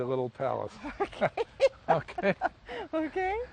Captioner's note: laughs